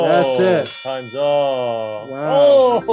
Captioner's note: bell ringing